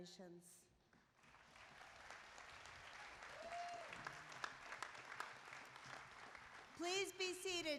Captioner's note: applause